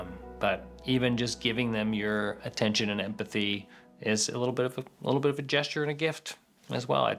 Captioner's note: none